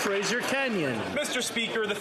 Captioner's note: some Applause